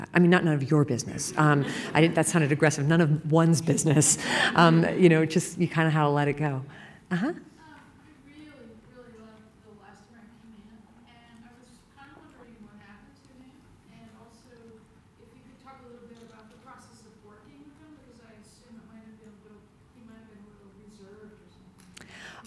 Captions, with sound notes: I mean not none of your business. [laughter] That sounded aggressive. None of one's business. [laughing] Just kind of gotta let it go. >> Uh-huh? >> I really, really loved "The Last American Man" and I was kind of wondering what happened to him and also, if you could talk a little bit about the process of working with him because I assume it might have been a little - he might have been a little reserved or something.